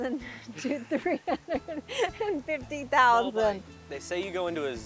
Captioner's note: chuckles